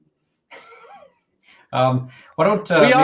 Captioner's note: giggles